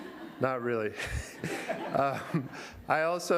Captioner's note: laughter